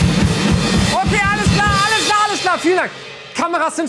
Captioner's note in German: schreit